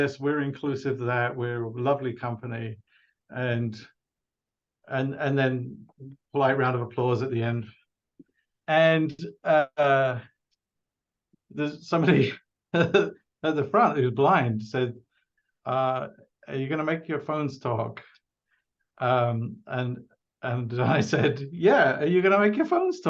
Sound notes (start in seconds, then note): 12.3 laughs